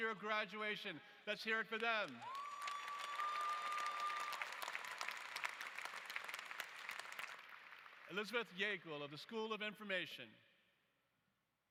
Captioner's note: applause